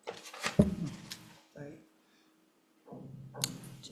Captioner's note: paper rustling